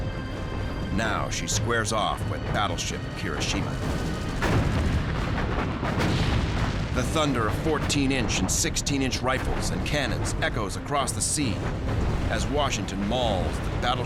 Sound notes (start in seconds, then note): 3.3 gunfire; 5.7 explosions